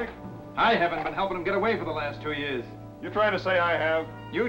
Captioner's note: none